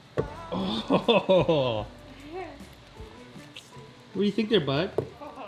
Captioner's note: laughing